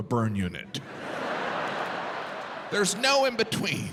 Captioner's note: audience laughing